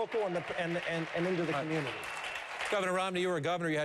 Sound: applause

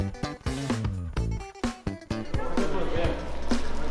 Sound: mumbling

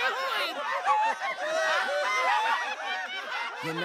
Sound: everyone laughs

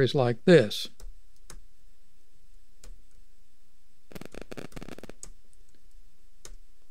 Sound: clicking

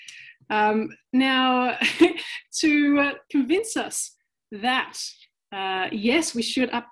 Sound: chuckles

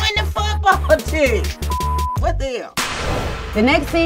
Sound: beep

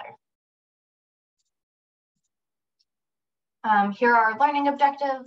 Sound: silence

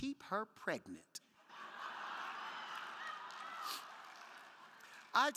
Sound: crowd laughing

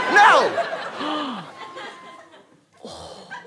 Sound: gasps

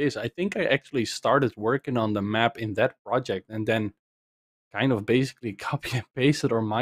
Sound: none

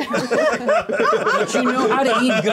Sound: co-hosts laughing

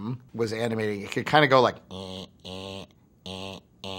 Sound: imitates motor

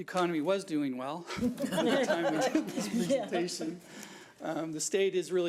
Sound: board members laugh

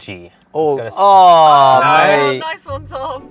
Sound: groaning

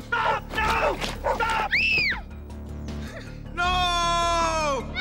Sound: screaming

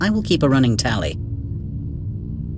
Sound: none

